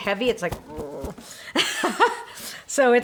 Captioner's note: laughing